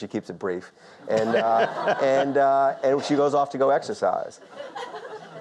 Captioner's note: Lord King laughs; audience laughs